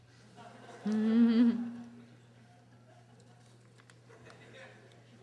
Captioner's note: audience laughter